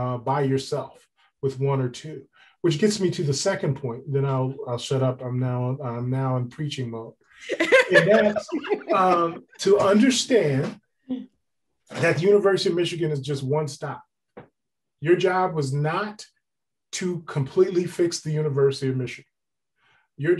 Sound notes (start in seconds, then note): 7.5 laughs